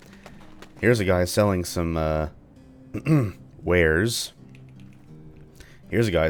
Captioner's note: clears throat